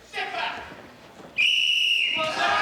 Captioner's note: whistle blowing